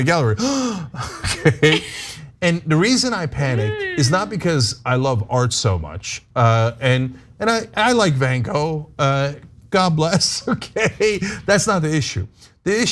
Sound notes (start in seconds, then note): 3.5 laugh; 10.0 laugh